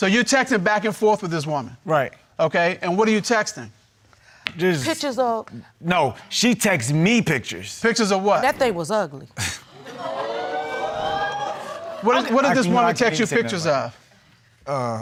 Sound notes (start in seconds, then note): 9.9 audience exclaiming